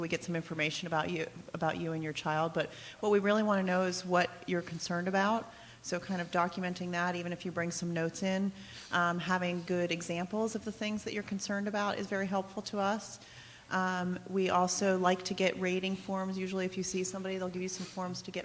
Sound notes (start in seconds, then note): none